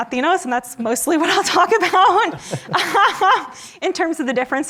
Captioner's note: laughs